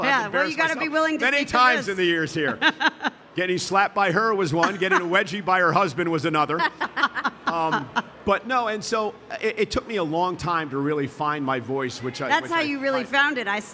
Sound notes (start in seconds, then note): 6.5 laughing